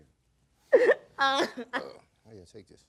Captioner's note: crying continues